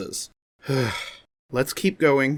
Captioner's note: sigh